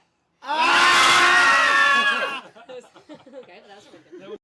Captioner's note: everyone screams